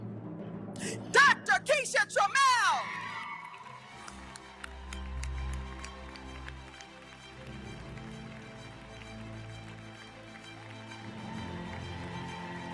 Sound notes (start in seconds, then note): 2.0 audience cheering; 3.4 audience applauding; 6.3 uplifting music